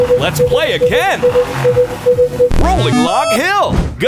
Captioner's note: beeping